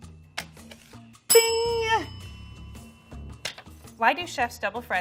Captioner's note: bell ringing